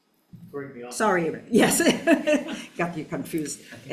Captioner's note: laughs